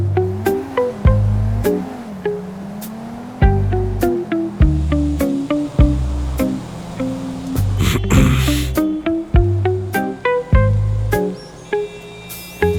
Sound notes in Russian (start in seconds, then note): 7.8 прочищает горло